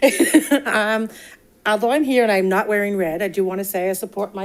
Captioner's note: laughs